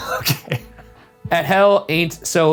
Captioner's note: laughing